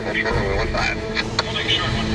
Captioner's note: radio tower chatter